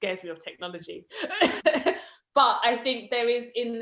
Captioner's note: laughs